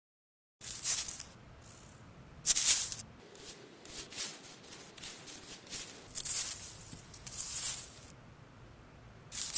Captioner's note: dried leaves crunching